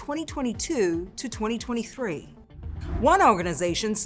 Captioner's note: graphics whooshing